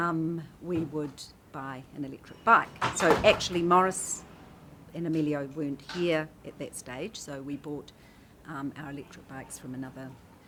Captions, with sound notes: we would buy an electric bike. (clatters) So actually Maurice and Emilio weren't here at that stage, so we bought our electric bikes from another,